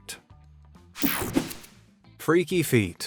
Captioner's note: whooshing sound